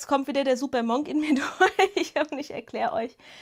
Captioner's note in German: Gelächter